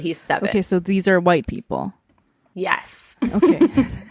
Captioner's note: laughs